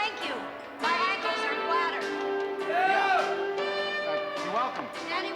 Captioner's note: shouting